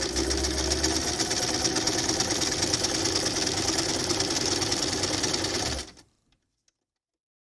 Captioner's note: sound of sewing machine